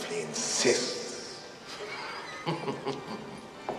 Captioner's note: chuckling